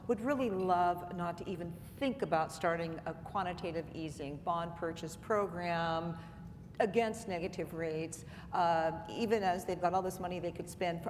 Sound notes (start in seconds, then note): none